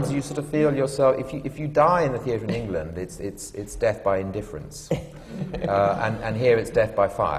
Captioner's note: laughter